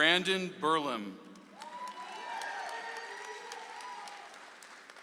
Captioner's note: audience applauds